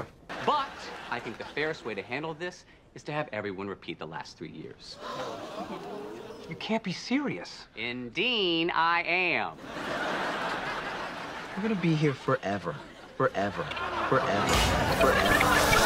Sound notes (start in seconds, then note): 4.9 gasp/slight booing sound effect; 9.5 laugh track; 13.7 ”forever” echoing, laugh track